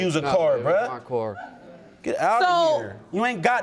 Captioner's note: audience giggling